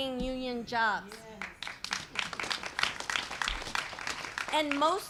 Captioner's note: applause